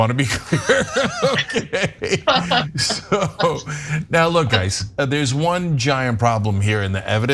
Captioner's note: laugh